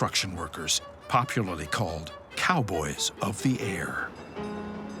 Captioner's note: trolley bell rings